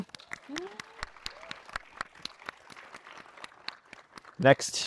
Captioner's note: attendees cheering and applauding